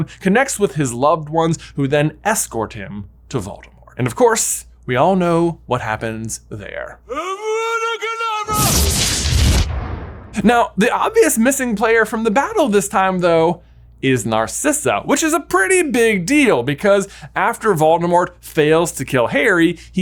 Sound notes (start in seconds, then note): 8.5 electricity sizzles